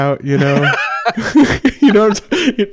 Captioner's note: laughs